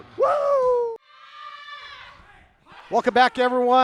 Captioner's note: women screaming